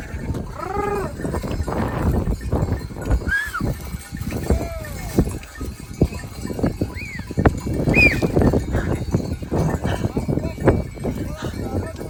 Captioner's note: I whistle